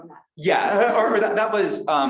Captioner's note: chuckles